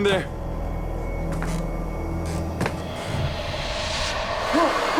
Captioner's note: creaky floorboards